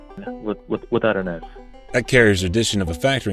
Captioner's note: stammers